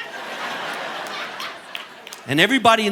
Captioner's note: audience laughing